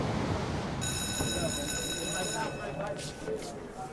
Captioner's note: school bell rings